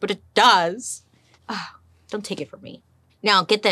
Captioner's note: gasps